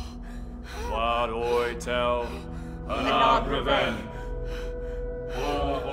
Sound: all chanting in foreign language

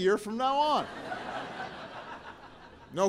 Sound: laughter

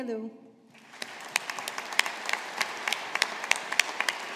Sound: audience applauding

